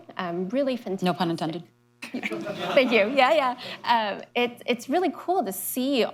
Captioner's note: laughter